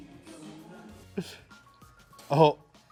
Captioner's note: chuckling